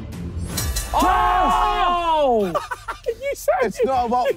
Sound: group cheering

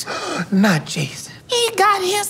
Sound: gasping

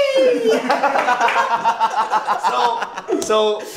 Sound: laughing

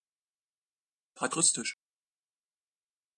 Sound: fast Pronunciation

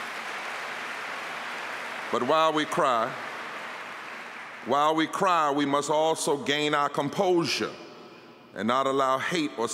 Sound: applause

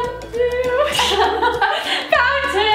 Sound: laughter

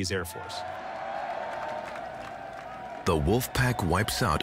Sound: cheering

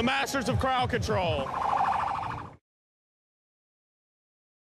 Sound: siren wailing

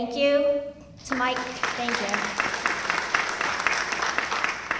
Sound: applause

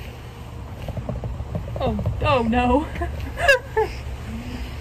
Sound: laughing

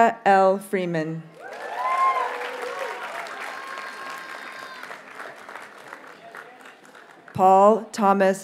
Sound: audience cheers and applauds

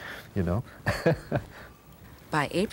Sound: chuckles

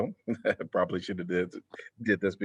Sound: laughter

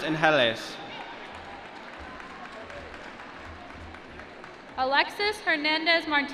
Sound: applause

